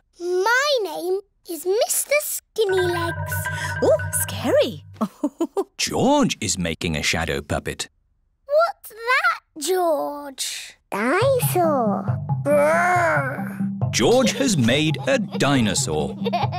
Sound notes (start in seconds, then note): 4.9 laughs